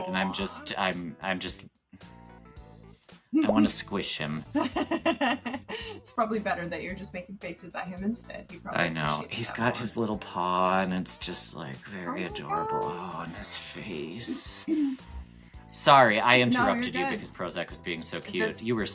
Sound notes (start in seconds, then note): 4.5 laughs